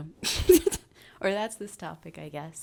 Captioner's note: laughs